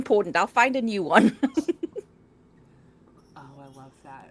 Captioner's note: laughs